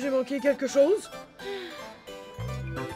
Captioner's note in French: soupir